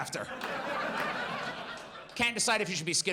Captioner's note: audience laughs